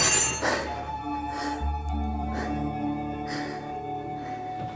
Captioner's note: silverware clattering; gasping